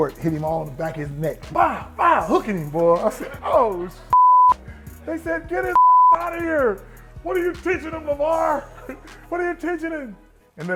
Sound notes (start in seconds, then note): 5.7 beep